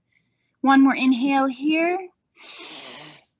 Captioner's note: inhaling